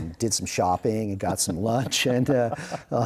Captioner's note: laughing